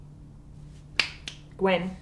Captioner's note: Kennedy snapping fingers